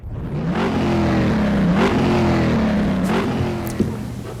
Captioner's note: car engine roaring